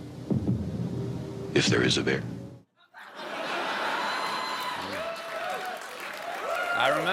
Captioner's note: laughter